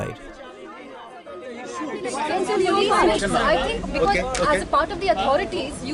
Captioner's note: people talking